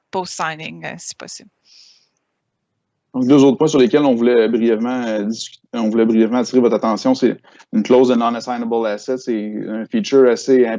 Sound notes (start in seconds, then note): 3.5 speaking in foreign language